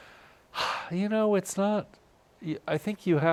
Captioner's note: sighs